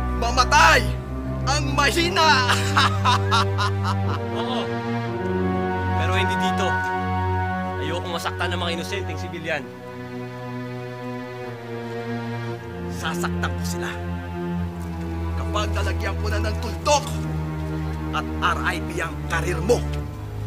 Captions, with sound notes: And the weak shall die! [laughs] Sure. But not here. I don’t want any innocent civilians to get hurt. I will hurt them. When I place a period and an R.I.P. on your career.